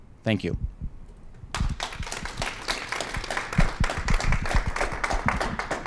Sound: applause

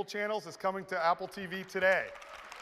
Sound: applause

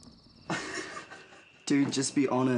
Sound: laughter

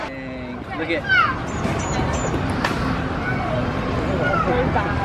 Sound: children playing

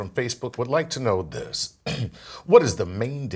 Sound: cough

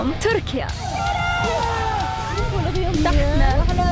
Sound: montage music plays; cheers

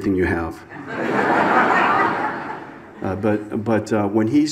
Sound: audience laughs

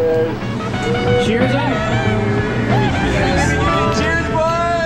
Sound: group members chattering

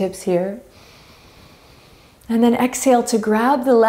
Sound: inhaling deeply

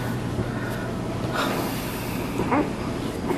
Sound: sighs

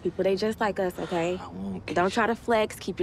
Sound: sighing

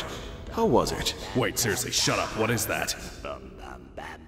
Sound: creepy humming in background

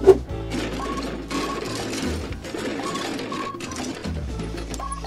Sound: machinery moving

